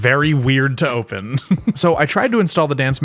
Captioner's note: chuckle